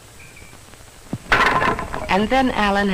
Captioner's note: crash!